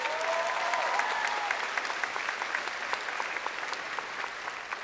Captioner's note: crowd cheering